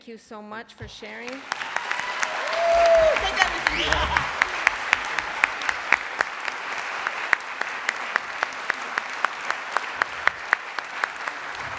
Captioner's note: applause